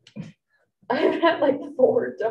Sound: group giggling

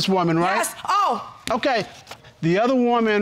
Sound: exclaims

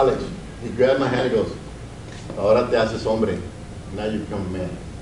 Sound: speaks Spanish

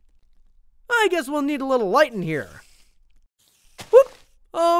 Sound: none

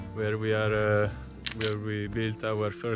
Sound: camera shutter clicking

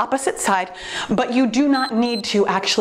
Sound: timer beeps

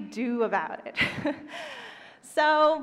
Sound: laughs

